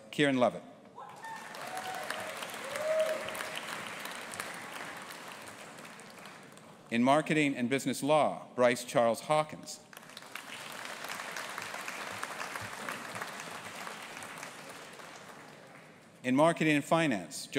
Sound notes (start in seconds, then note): 1.1 audience applauding; 9.9 audience applauding